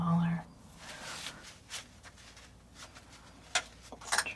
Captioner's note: scratching sounds